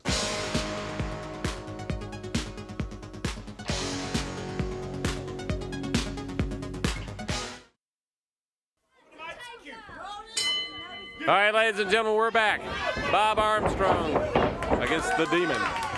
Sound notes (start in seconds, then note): 0.0 upbeat music; 10.3 bell rings